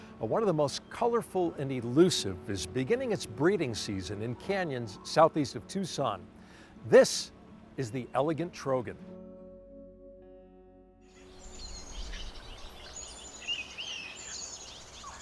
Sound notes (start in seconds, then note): 11.1 birds chirp